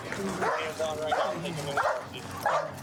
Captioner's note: dog barking